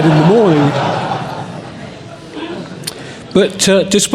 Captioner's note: laughter